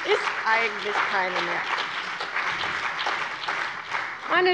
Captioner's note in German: Beifall bei der CDU und dem BÜNDNIS 90/DIE GRÜNEN